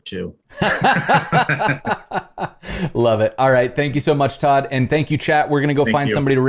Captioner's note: laughter